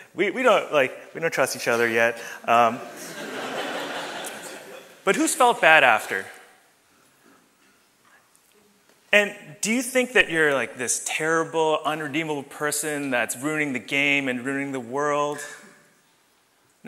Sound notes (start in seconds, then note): 2.8 audience laughs